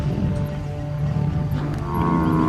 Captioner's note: lion growling; animals calling; mooing